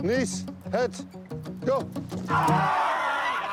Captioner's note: all shout